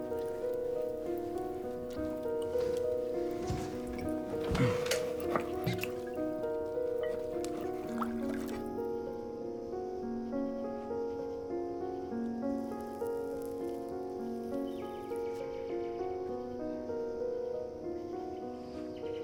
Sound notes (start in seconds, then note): 4.4 man grunts; 7.0 bottle pops; 7.5 liquid pouring; 15.0 birds chirping